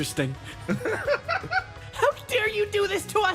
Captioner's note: laugh